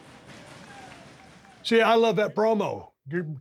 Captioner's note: crowd member applauding